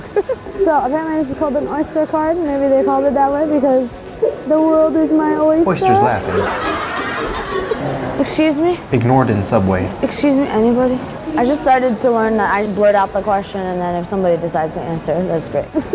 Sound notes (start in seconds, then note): 5.6 oysters laughing